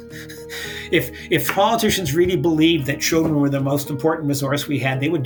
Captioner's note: laughs